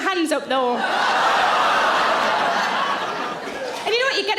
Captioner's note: audience laughing